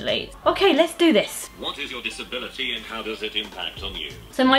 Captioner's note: text to speech